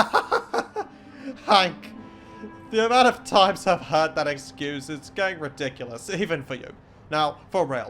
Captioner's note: laughs